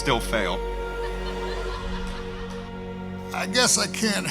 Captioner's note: crowd laughing